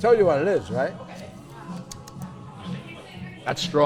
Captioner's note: smacks lips